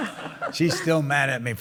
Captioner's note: laughter